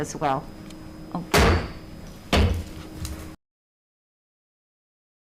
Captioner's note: gavel bangs